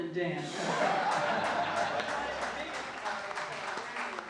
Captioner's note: crowd laughing